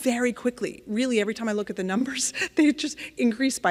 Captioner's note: laughing